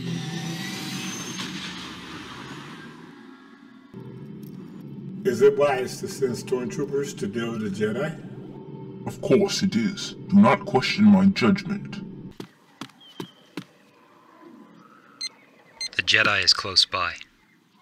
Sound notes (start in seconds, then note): 1.2 shuttle Jumps into Hyperspace; 15.7 tracking Device beeps